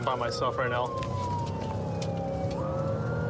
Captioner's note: siren blaring